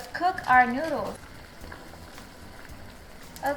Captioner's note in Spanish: Agua hirviendo